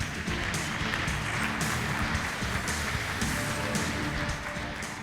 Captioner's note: applause